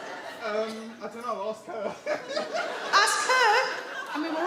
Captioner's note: laughs